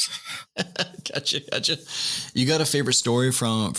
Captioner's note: laughter